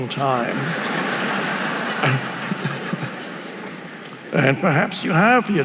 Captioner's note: audience laughing